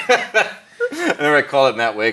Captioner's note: laughs